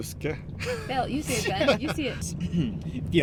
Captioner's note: chuckles; chuckling